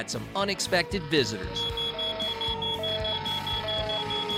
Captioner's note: sirens wailing